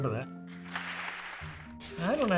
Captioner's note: audience applauds